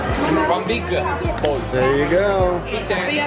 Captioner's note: employee speaking in foreign language